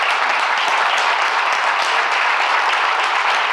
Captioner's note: claps